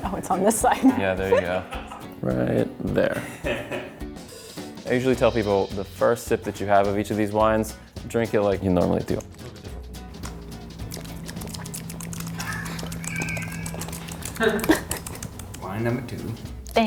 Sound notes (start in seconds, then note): 10.2 lips smacking; 10.3 upbeat guitar music